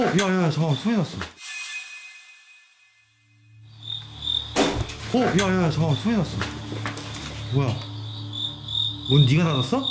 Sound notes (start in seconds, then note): 4.6 thud!